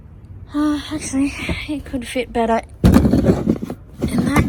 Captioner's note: heavy thudding